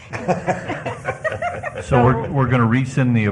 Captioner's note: laughter